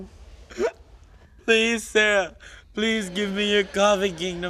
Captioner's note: crying